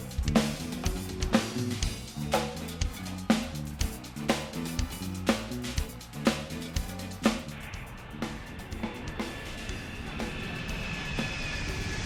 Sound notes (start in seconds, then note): 0.2 lively upbeat music; 8.3 plane roaring